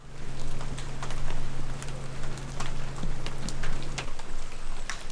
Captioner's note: rain pattering